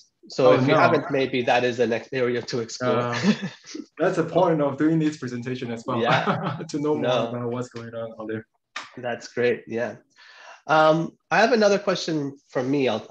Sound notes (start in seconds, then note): 6.0 laughs